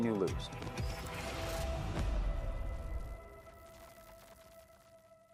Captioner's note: static sizzling